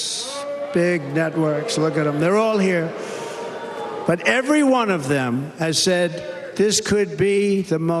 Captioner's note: cheers and applause